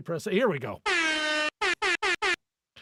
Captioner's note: horn honking